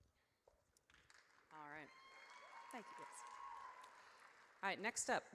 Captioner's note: audience cheers